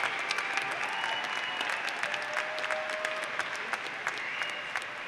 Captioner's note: applause